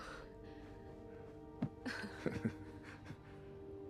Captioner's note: chuckles